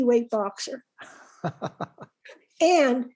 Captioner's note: laughs